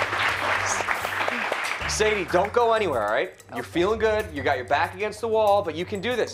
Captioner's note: applause